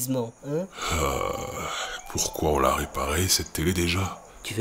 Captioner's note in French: soupir